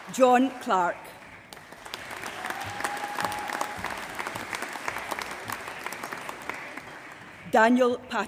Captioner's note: applause